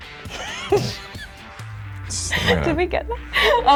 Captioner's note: laughing